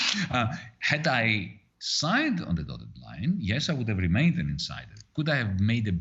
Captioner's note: laughing